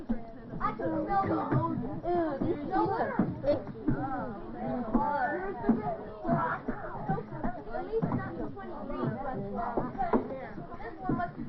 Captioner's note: chattering and grumbling